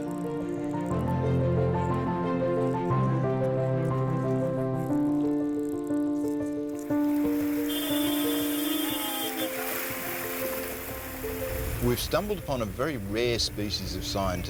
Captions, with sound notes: (inspiring music continues) (vehicle horn honking) (water sloshing) We've stumbled upon a very rare species of scientist,